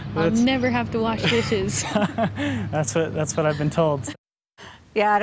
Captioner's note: laughter